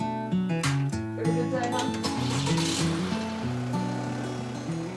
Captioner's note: engine starts